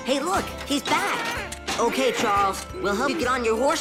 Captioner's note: grunts